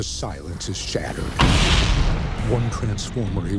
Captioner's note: explosion booming